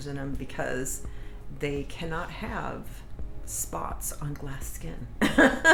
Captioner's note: laughs